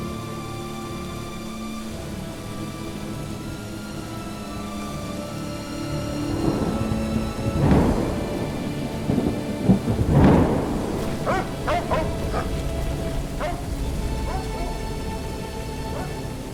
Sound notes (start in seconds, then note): 6.4 lightning striking; 11.0 dog barking